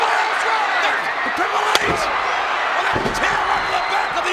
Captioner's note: crowd cheering; overlapping chatter